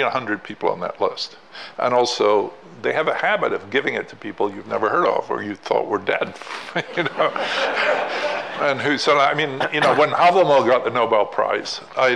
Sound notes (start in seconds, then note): 6.4 laughing